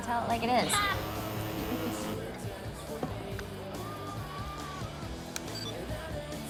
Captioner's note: Izzie laughs; phone vibrates